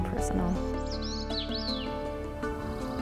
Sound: bird trilling

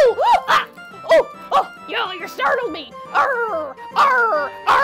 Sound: gasps

